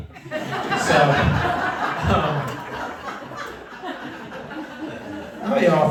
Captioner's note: laughter